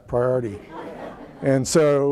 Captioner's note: laughter